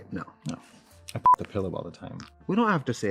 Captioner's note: beep